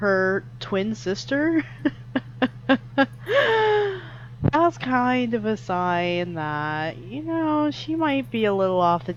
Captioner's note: laughs